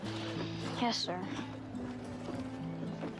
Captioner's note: sighs